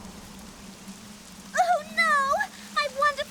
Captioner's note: wind whistling